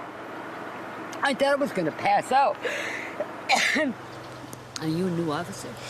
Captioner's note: coughs